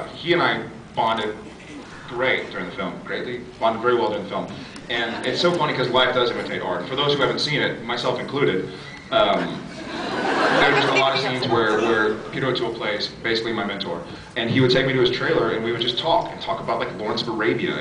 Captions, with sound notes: He and I bonded... great during the film. Greatly? Bonded very well during the film. And it’s so funny 'cause life does imitate art and for those who haven’t seen it, myself included, [laughs] There are just a lot of scenes where -- where Peter O’Toole plays basically my mentor. And he would take me to his trailer and we would just talk. And talk about, like, Lawrence of Arabia